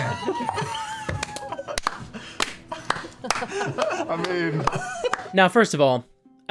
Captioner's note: laughter